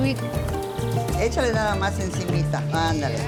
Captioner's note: speaks Spanish